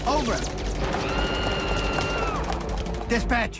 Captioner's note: screams